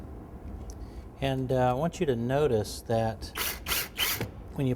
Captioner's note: drill whirs